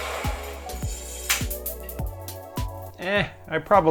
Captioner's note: sound of small metallic object falling to the floor